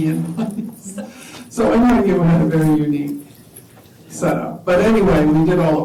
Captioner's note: laughs